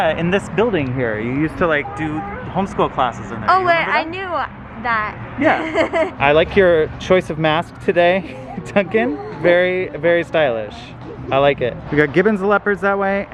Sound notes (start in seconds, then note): 5.4 laughs; 8.1 laughs